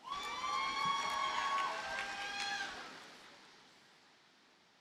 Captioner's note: audience cheers and applauds